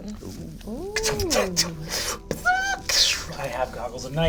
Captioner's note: imitates mechanical noises